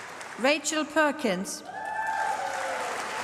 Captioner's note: applause